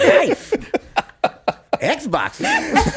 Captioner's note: laughs